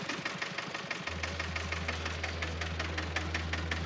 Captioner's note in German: Traktortuckern, aufregende Musik